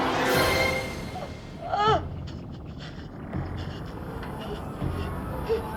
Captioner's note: gasping, Moaning